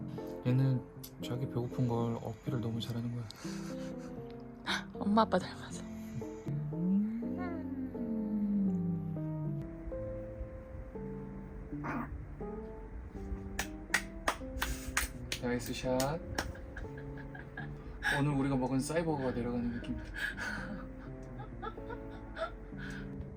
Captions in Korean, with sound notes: 얘는 자기 배고픈걸 어필을 너무 잘 하는 것 같애 엄마 아빠 닮아서 ~~ (개운한 트림소리) 나이스 샷~~ 오늘 우리가 먹은 버거들이 내려가는 기분이야